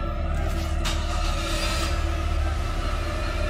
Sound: car engine starting

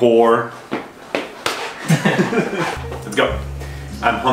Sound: hand slapping; both laughing

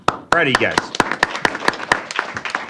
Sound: applause

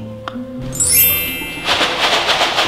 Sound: screen tinkling; cereal rattling

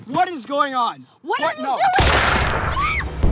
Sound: gun banging; girl screaming; ominous music

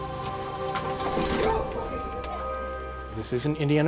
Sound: clattering

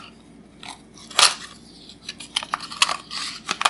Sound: unboxing sounds

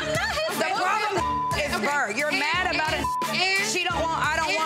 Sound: beep

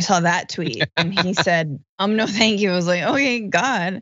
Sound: laugh

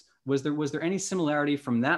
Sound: none

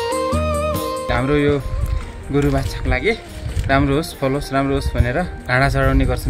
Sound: bells

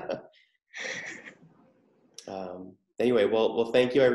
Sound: chuckles

